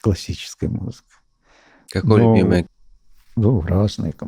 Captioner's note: speaking in Russian